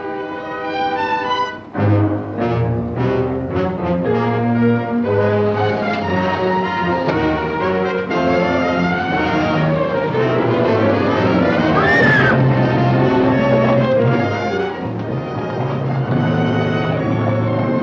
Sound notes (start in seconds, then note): 11.7 screaming; 14.1 tense instrumental music